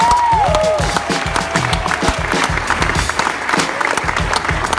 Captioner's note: audience cheering